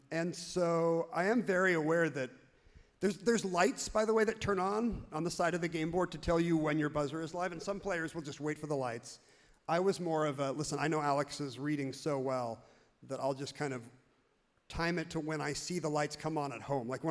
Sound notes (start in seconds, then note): none